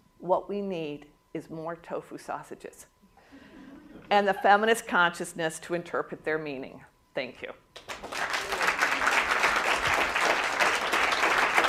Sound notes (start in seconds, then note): 2.9 laughter; 7.7 applause